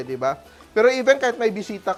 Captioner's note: sizzles